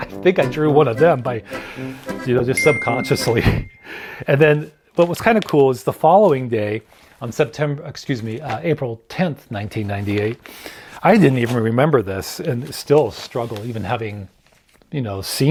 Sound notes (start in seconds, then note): 2.5 bell chimes